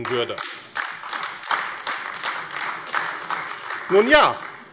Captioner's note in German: Beifall AfD